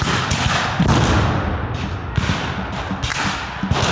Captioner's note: guns fire